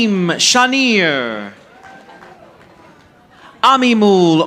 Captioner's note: audience applauding